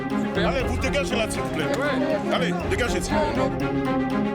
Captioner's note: French spoken audio